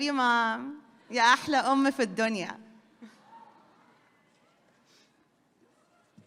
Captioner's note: speaks foreign language